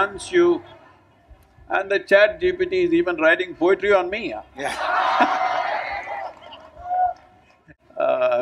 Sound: laughter/Cheering

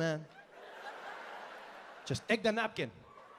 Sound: audience laughing

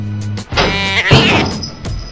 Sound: ginger Cat Yowl

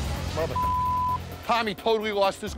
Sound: beep

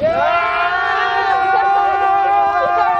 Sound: yells

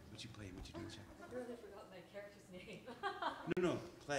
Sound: laughs

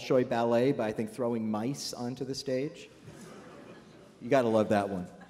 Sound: laughter

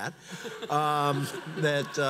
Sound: audience laughs

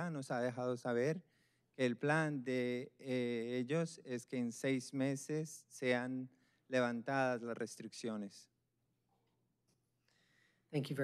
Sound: speaking spanish

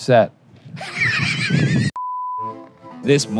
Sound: screen beeping; laughing

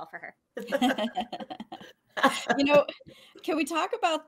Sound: laughing

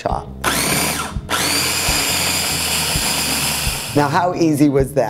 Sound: food processor whirring

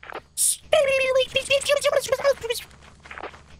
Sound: does weird, squelchy lip trills

